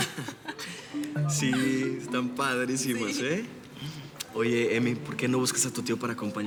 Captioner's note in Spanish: risas